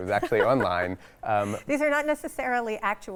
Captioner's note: laughs